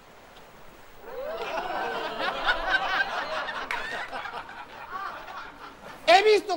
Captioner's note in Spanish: Risas